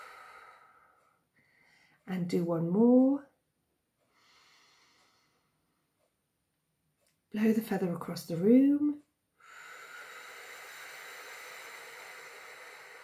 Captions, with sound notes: And do one more. [inhales] Blow the feather across the room. [exhales]